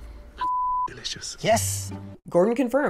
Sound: tense suspenseful music; beep

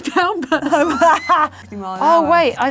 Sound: laughs

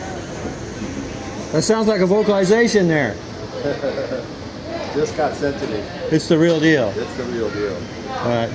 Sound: Bigfoot howl recording

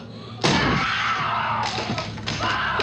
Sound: she shrieks

